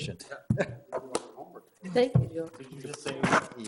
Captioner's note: group chattering